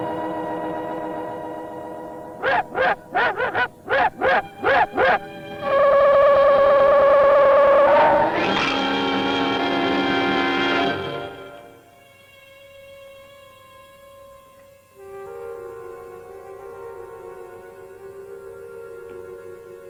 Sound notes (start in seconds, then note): 2.4 dog barking; 5.8 gun humming; 13.8 disquieting chords